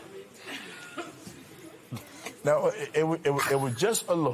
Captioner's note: audience murmurs